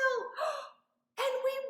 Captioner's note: gasps